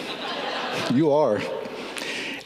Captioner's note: people laughing